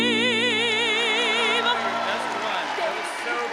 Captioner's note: all applauding and cheering